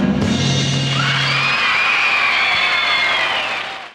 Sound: crowd cheering

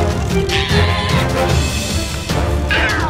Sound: scream

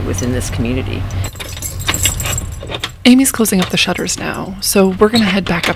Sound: keys jingling, wood creaking

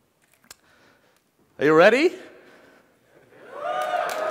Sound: cheering

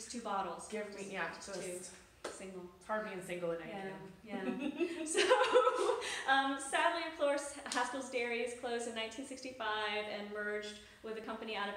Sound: laughs

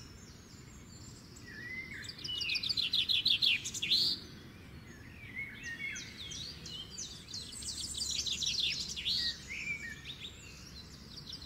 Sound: bird tweeting

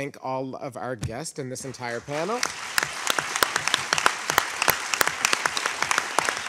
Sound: audience applauding

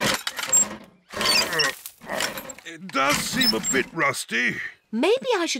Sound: groans

